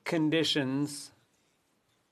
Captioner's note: speaking French